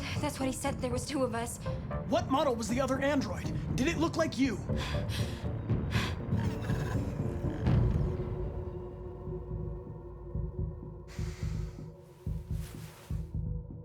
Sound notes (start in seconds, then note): 11.2 sigh